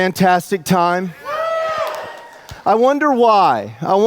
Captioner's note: audience cheers